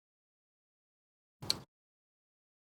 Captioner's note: click